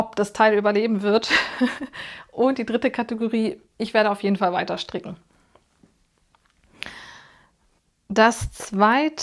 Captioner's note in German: gelächter